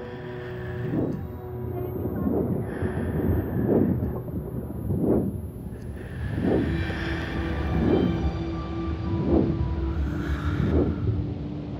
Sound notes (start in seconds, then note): 0.2 heavy breathing; 3.6 thunder rumbling; 6.7 heavy breathing continues; 6.7 orchestral music